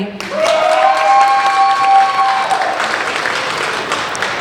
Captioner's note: applauding